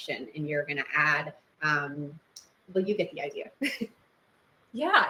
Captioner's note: chuckles